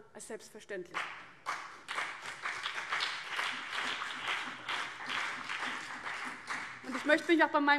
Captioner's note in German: Beifall CDU und BÜNDNIS 90/DIE GRÜNEN